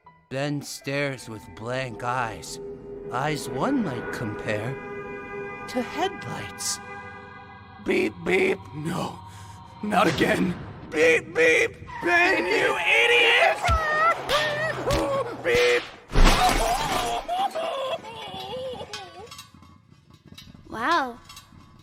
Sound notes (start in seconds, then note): 12.6 violent car chase noises; 16.3 car Crash screams!